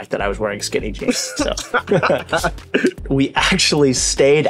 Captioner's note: both laughing